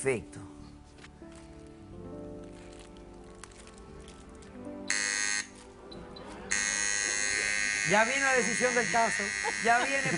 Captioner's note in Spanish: Ruido de máquina